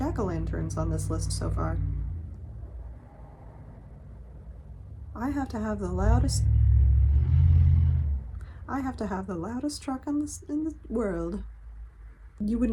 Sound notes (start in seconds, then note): 4.8 loud car noise; 5.4 more loud car noises